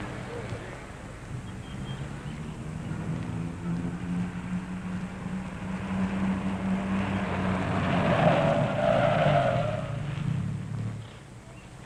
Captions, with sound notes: - Post 12, that truck! Post 12, that truck! (tires screeching) All right, you guys in the trucks, that was close,